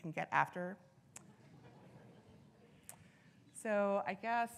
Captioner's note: audience laughing